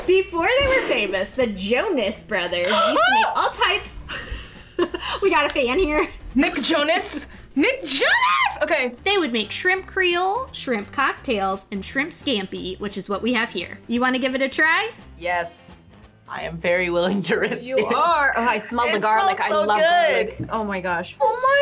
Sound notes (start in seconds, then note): 2.8 gasps; 4.6 laughs